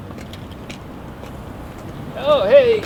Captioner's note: footsteps thudding